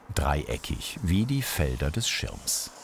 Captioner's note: none